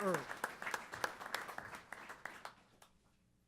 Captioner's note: applause